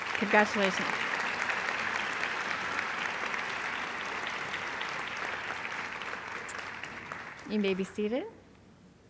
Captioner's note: applause